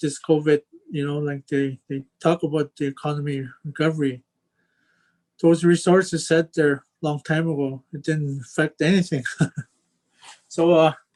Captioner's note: chuckles